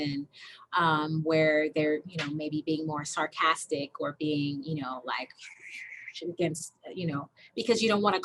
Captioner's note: whispers